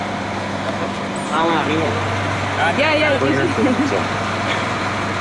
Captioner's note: indistinct chatter